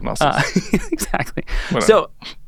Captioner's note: chuckles